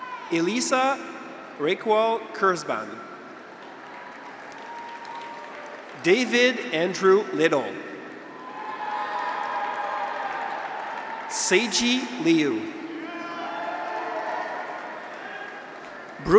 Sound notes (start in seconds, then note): 0.0 graduates cheer; 3.5 audience applauds; 8.1 graduates cheer